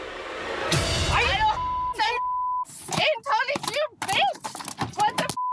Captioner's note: spits